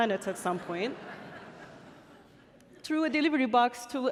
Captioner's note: audience laughing